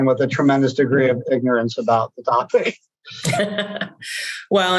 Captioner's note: laughs